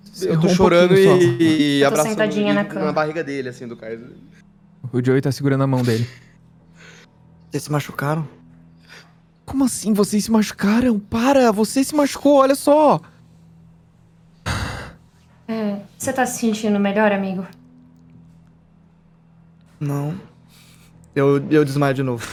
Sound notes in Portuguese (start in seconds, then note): 14.4 Suspiro